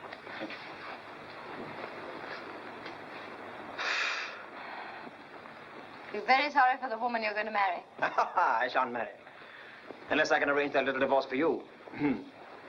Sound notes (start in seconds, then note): 3.7 exhales; 8.1 laughs